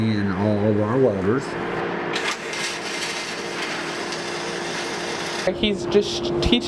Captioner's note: welding noise